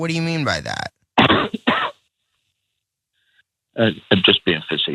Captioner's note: cough